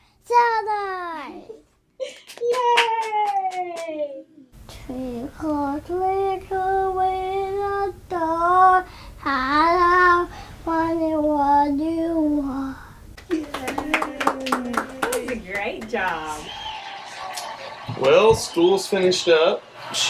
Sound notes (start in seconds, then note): 2.2 clapping; 13.2 clapping